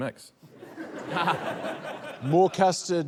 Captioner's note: laughter